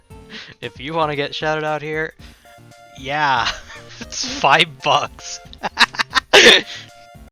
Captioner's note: laughs and ends the video